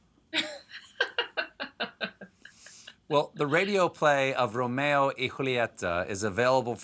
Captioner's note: laughs